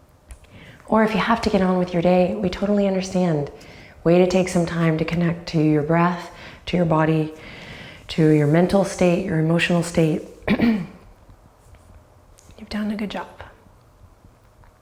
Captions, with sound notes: Or if you have to get on with your day, we totally understand. Way to take some time to connect to your breath, to your body, to your mental state, your emotional state. (clears throat) You've done a good job.